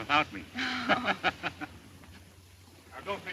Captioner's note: both laugh